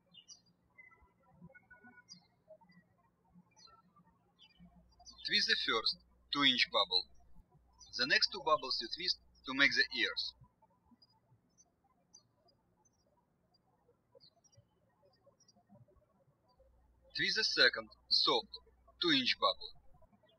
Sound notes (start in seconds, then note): 0.0 birds chirping; 11.4 birds chirping